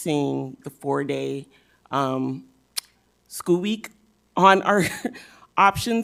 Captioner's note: laughs